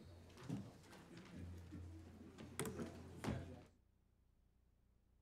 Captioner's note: faint talking from staff